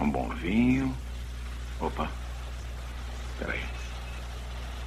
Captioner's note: water Running